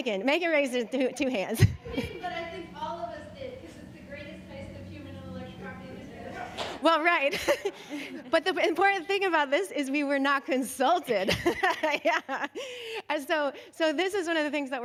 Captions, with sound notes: Megan raised two hands. - But I think all of us did because it's the greatest place of human intellectual property. - Well, right. [chuckles] But the important thing about this is we were not consulted, yeah. So this is one of the things that we're